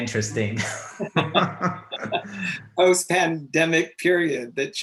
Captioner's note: both laughing